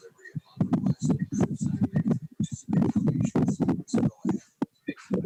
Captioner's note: background chatter